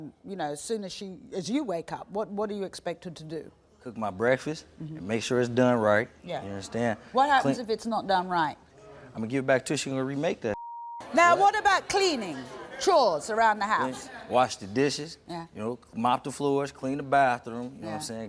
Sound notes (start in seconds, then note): 10.5 beep